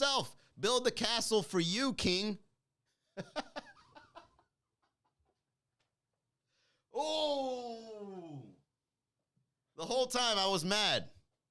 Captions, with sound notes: Build the castle for you king. (laughing) Oh! The whole time I was mad.